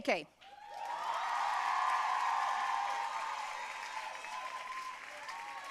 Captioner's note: audience cheering and applauding